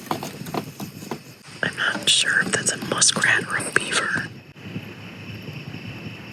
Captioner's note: whispering